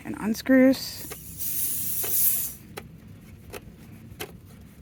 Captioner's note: air releases